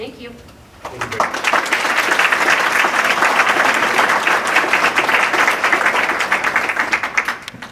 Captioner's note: clapping